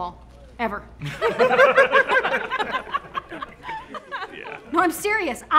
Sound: group laughing

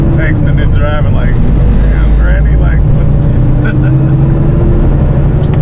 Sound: laughter

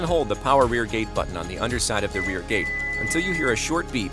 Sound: electronic beeps

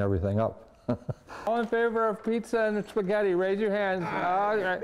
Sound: chuckles

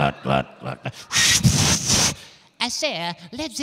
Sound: making whistling noise

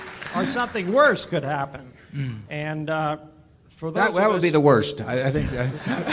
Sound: laughter

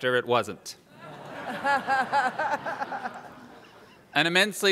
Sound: laughter

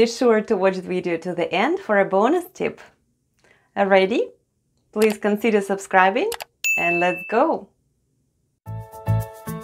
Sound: click & ding sounds

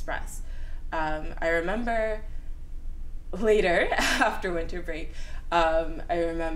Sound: laughs

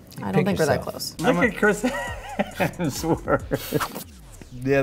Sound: laughing

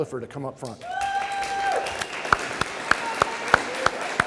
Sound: audience cheering

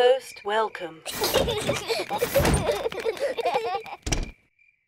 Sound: children laugh

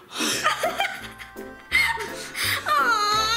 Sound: laughing

